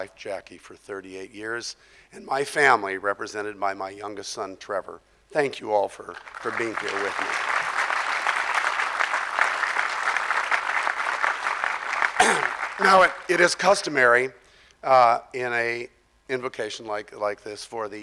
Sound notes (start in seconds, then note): 6.1 audience clapping